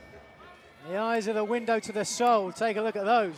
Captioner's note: crowd chatter